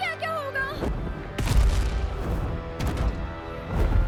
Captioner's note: stomping